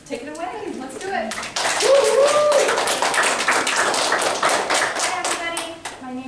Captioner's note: applause